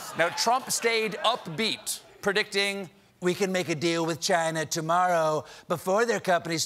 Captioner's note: laughter